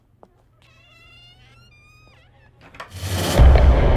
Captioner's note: Door closing